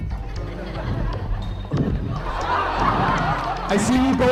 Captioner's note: audience laughing